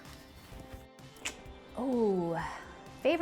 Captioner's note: clicks tongue